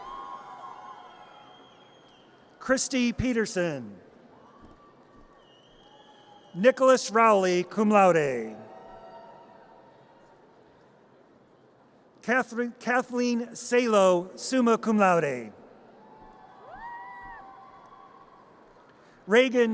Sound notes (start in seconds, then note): 0.0 audience cheers; 4.6 audience cheers; 8.9 audience cheers; 16.2 audience cheers